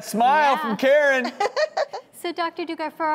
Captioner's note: Karen laughs